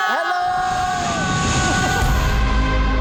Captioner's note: screaming